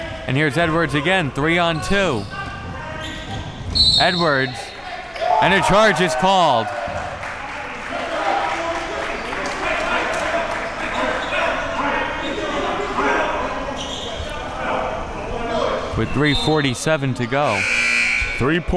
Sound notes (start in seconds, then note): 7.3 audience applauding and chattering; 12.9 audience chattering and yelling; 17.4 buzzer buzzing